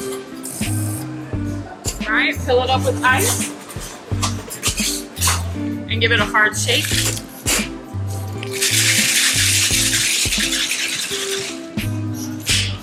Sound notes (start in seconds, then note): 4.3 ice rattles; 8.4 ice clatters in shaker, lid thuds